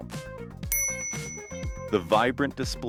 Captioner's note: bell Sound